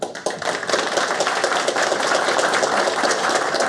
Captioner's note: applause